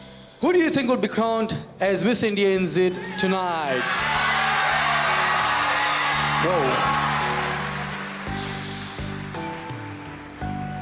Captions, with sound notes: who do you think would be crowned as Miss India NZ tonight? (crowd cheers) Whoa. (gentle music)